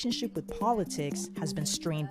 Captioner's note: speaking in a global language